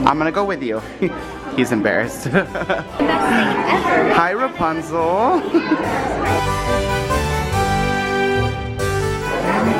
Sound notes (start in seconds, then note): 2.2 chuckles; 6.6 royal music